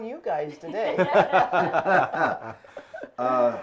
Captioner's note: laughs